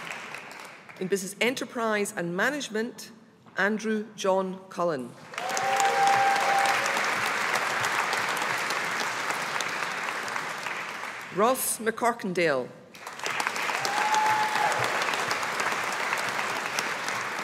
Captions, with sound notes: In Business Enterprise and Management, Andrew John Cullen. (AUDIENCE APPLAUDING) Ross McCorkindale. (AUDIENCE APPLAUDING)